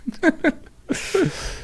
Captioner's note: laughing